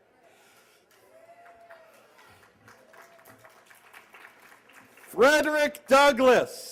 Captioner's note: applause